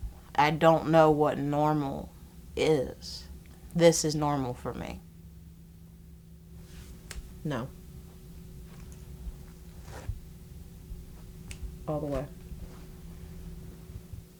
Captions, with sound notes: I don’t know what normal is. This is normal for me. [snaps fingers] No. [snaps fingers] All the way.